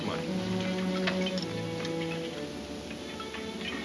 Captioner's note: metal clanking; dramatic music